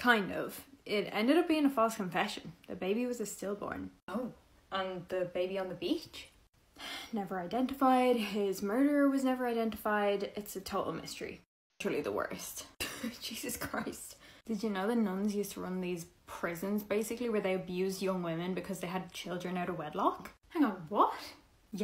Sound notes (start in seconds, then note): 6.8 sigh